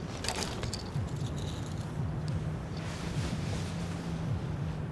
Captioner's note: heartbeat beating